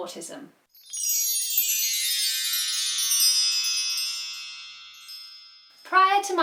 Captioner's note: chimes